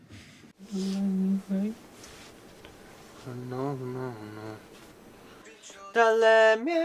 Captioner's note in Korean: 마지막 녹음 전 흥얼거리며 음을 복기하는